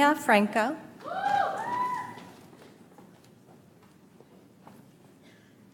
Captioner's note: audience applauds